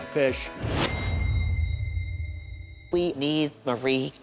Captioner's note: tuning fork chimes